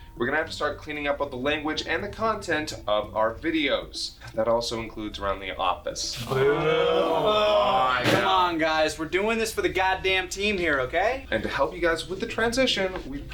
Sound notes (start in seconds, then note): 6.2 groan